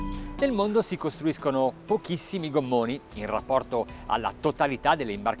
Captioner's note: speaking in foreign language